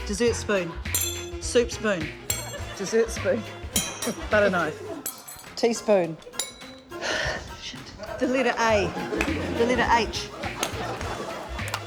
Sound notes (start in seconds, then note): 6.9 sighs